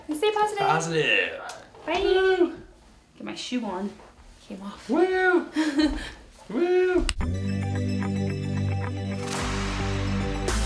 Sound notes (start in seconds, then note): 5.5 laughs; 7.2 energetic music